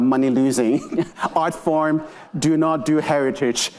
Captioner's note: attendees laughing